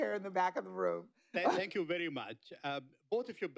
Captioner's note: laughs